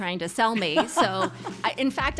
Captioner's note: laughs